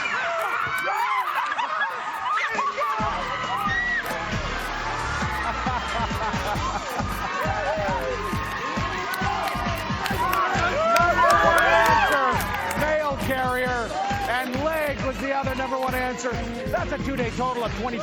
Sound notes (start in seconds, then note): 2.0 laughing and cheering